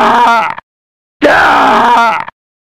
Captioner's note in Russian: Кричит; Кричит!